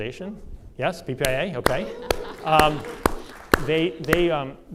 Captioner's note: audience cheers and applause